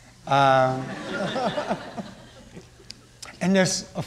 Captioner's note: laughing